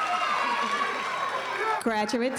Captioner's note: cheering continues